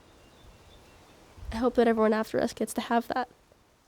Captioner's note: birds, trees, wind